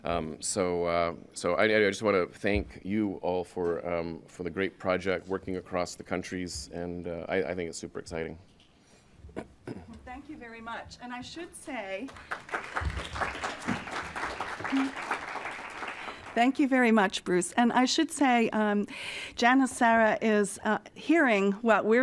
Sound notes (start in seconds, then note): 12.0 applause